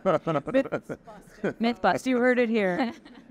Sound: laughing

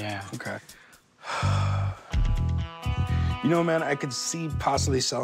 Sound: sighs

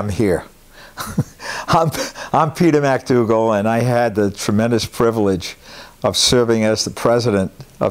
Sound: laugh

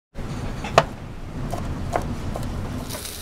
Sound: chopping; sizzling

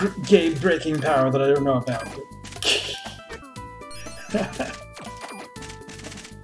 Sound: laughs

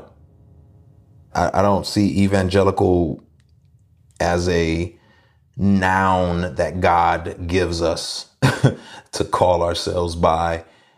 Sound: laughs

